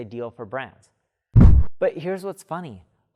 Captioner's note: air swish